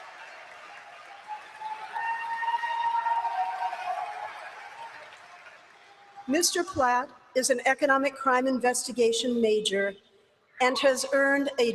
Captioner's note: applause